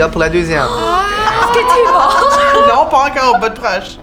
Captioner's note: laughter